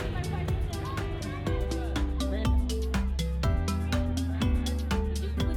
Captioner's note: crowd chattering; upbeat music